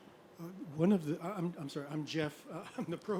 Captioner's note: voiceover